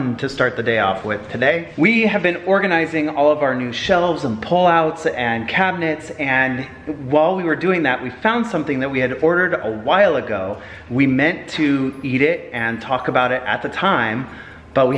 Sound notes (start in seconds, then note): none